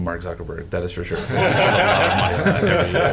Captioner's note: crowd laughing